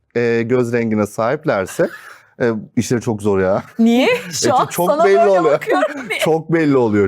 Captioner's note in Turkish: kahkaha